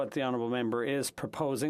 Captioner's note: speaking French